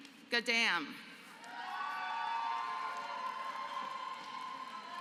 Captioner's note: applause